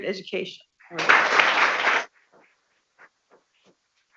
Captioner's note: people clapping